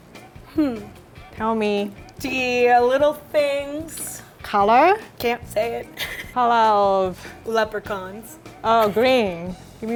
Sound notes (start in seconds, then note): 5.9 laughing